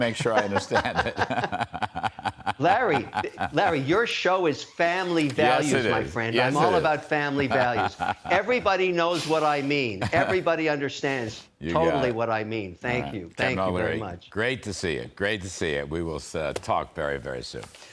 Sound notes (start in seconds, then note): 7.3 laughter